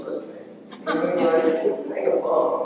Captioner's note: laughter